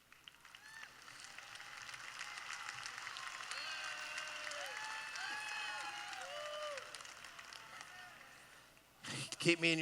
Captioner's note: applause